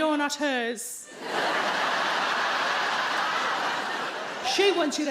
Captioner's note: audience laughing